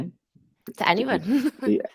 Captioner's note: chuckling